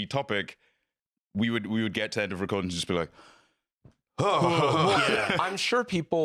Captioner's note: exhausted exhale